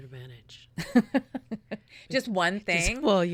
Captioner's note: laughing